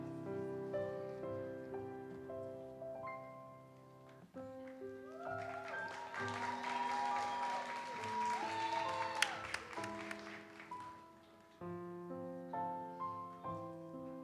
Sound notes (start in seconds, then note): 4.6 audience cheers and applauds; 10.8 gentle music continues